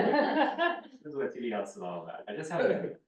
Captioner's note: muffled voice